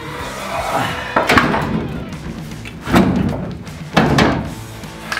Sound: clunking metal

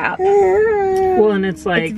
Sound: baby cooing

